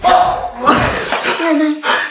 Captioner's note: scoffs